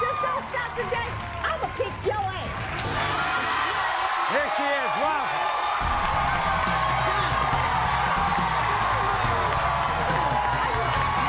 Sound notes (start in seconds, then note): 3.0 applause; 6.0 audience cheering and clapping